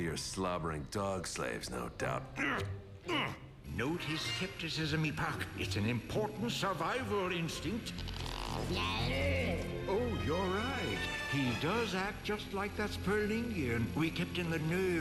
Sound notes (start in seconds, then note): 3.1 grunts; 9.2 babbling